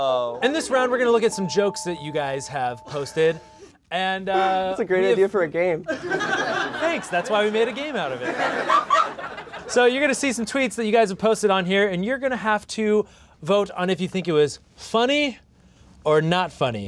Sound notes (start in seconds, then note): 5.8 laughter; 8.2 more laughter